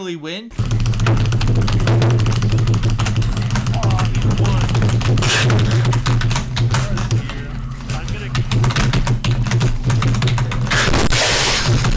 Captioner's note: furious typing